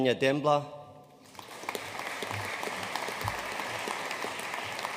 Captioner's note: audience applauding